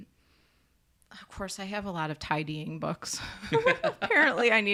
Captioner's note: laughs